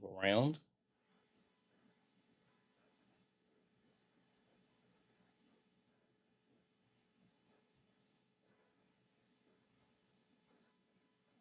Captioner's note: silence